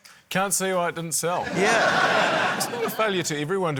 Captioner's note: laughter